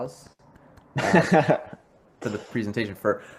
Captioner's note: laughs